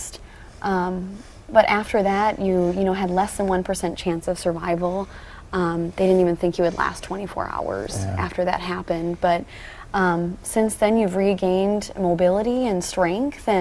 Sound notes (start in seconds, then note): 8.0 pat